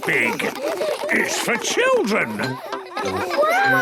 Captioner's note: children laughing